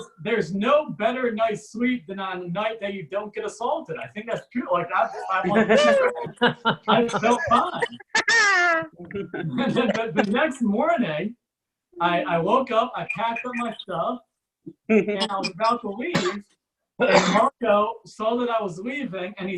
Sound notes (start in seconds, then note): 8.3 audience Laughs